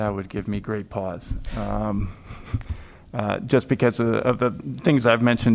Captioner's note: laughter